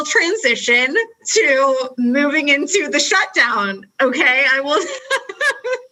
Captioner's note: laughs